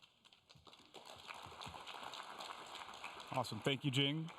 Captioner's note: applause